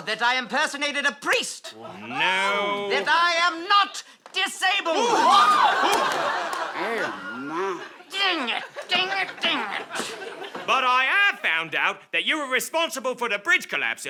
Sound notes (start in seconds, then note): 4.9 collective gasps and screams